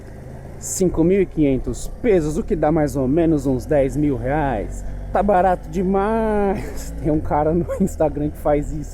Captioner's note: laughs